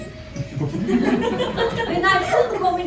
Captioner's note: laughter